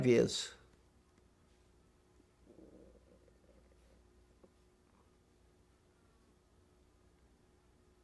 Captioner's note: pauses 6 seconds